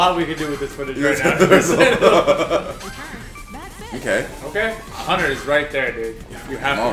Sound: laugh

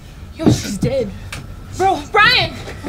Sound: stick thuds

